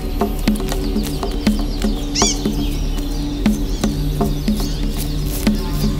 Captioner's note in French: bruits de la forêt